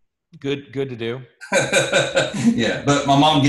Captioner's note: laughs